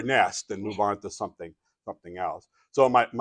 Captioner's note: chuckles